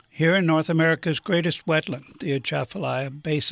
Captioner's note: none